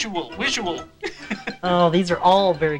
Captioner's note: laughter